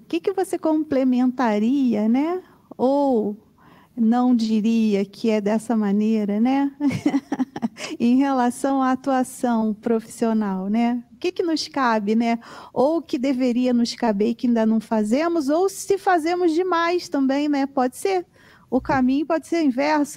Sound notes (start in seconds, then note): 6.8 laughter